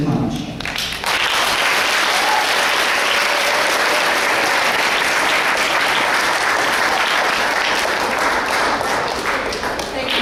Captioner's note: audience clapping